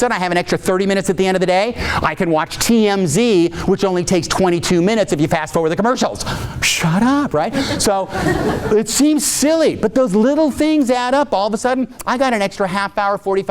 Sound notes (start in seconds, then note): 7.4 audience laughing